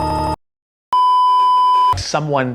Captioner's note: beeeeeep